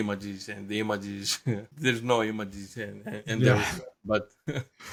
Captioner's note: laugh